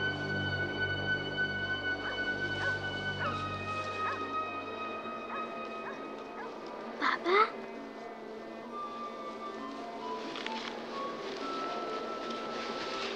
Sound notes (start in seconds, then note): 2.0 dog barking in distance; 8.6 dramatic music